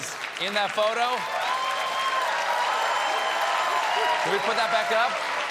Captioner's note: applause